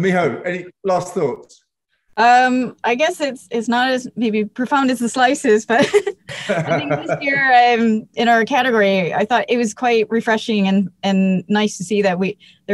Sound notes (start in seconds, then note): 5.8 laughs